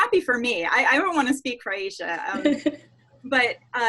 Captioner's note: laughs